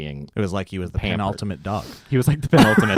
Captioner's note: laughs